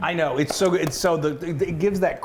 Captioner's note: mock eating noises